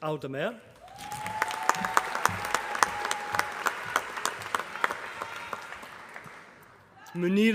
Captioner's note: applause